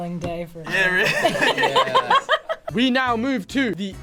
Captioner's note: laughs